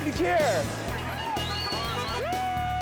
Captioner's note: people whistling